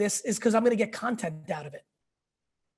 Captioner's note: none